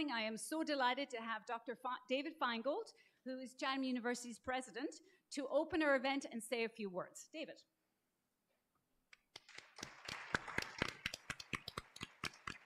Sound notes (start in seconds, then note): 9.1 applause